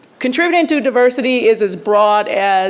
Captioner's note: none